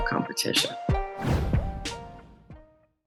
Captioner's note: air whooshing